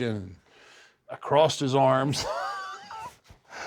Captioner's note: laugh